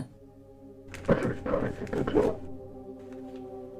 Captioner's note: light flicker sound; Garbled bag voice: "A Transparency video."